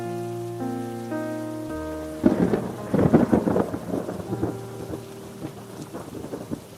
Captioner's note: thunder cracks